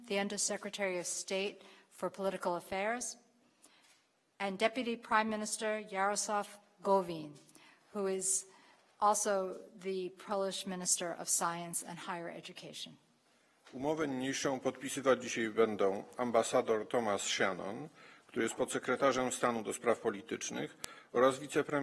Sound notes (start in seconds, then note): 14.8 speaking polish